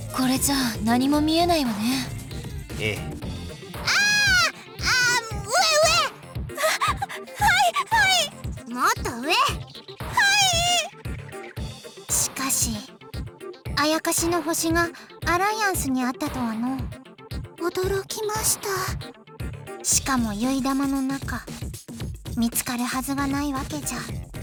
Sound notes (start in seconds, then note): 6.6 gasp